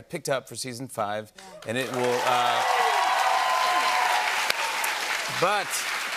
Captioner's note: cheers and applause